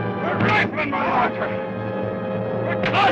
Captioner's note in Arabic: يصرخ بصوت غير واضح